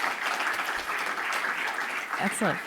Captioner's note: audience applauding